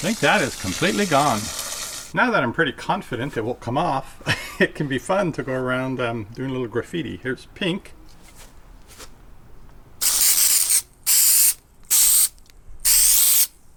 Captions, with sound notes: Think that is completely gone. Now that I'm pretty confident it will come off (chuckles) it can be fun to go around, I'm doin' a little graffiti. Here's pink. (spraying)